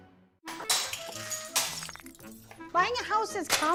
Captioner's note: glass breaking